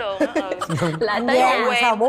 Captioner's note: giggles